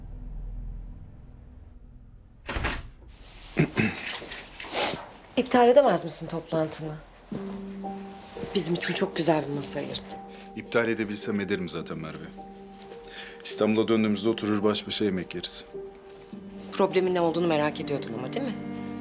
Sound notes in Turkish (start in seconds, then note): 2.4 Kapı açıldı; 3.5 Hakan boğazını temizledi